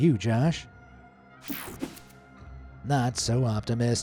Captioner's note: transition slashes